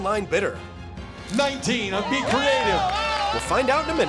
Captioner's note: cheers and applause